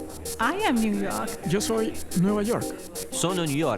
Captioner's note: Spanish